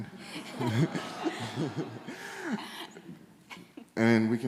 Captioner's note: laughing